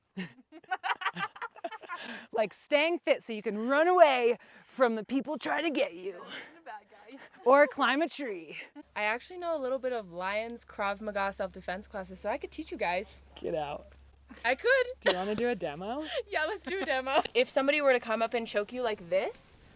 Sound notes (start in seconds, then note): 0.1 laugh; 14.3 laughs